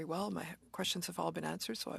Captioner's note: speaking French